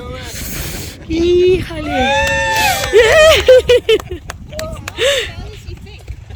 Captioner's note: applause